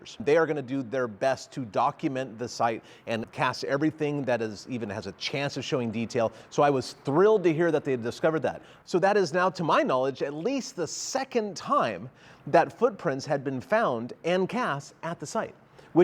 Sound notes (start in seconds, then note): none